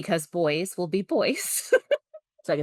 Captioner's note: laughs